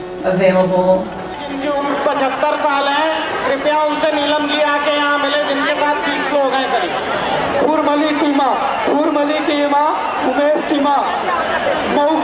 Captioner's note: sound of Indian language over loudspeaker